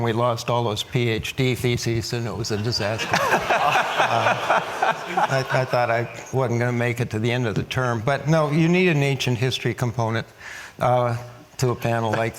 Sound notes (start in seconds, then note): 2.8 audience laughs